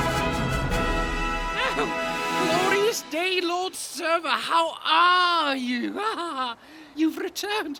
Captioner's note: laughs